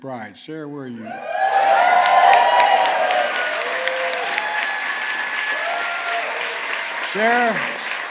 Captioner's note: applause